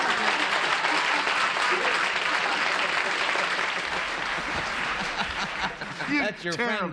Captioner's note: applause